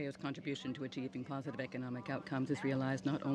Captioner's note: speaking french